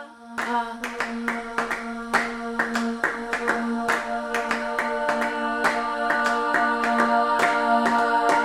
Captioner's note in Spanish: aplausos y vocalizaciones